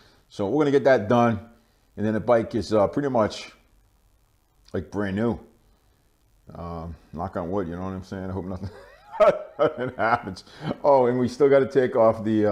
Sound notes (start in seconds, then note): 8.6 laughing